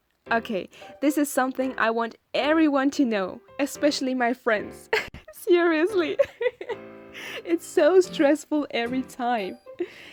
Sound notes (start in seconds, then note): 6.1 giggles